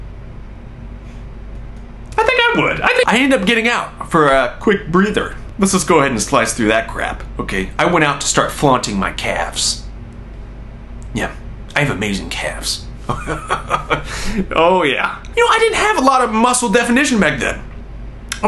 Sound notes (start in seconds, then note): 13.1 laughs